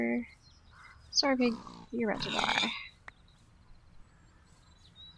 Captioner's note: oinking and pig screech